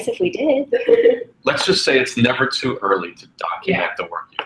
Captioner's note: laugh